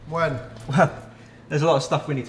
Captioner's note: arrogant scoffing